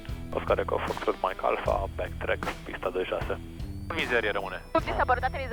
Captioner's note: radio chatter